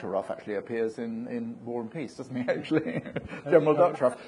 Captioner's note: laughs